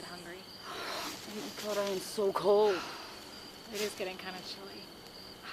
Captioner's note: gasp